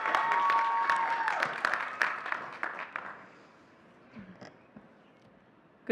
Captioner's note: audience cheering and clapping